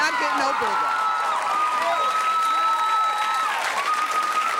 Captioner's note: cheering